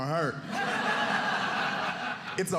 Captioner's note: audience laughing